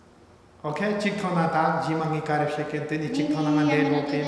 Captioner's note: speaking tibetan